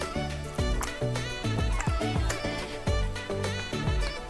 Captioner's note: nyam nyam nyam